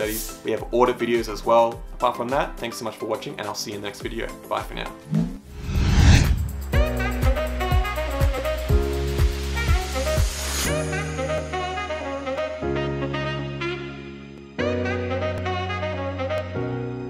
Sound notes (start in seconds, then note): 5.0 air whooshing; 7.5 upbeat music